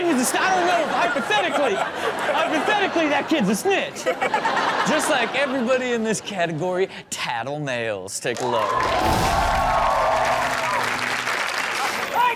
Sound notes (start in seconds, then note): 4.0 all laugh; 8.4 audience applauds